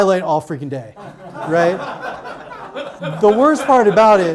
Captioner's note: audience laughs